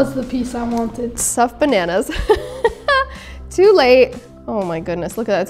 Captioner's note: laughs